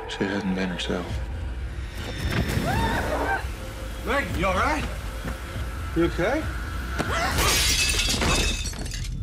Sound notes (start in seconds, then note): 2.6 megan screaming